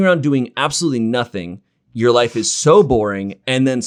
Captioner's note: none